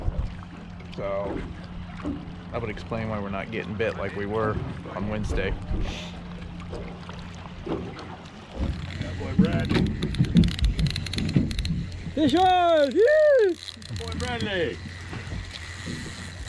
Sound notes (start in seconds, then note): 9.1 water lapping; 10.5 reel cranking